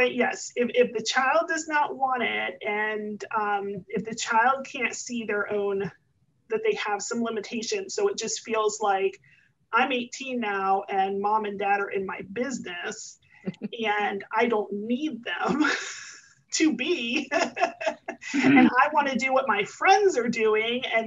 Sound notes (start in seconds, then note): 17.2 laughs; 17.3 chuckles